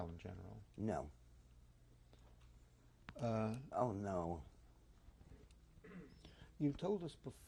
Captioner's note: pauses for 3 seconds